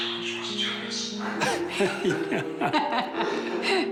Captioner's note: laughs